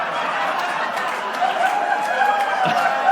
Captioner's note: laughter/Applause